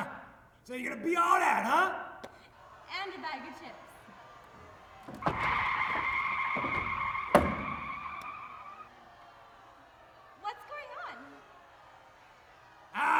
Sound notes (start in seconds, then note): 5.0 crowd noises, brake sounds